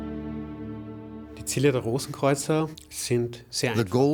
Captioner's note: speaking in German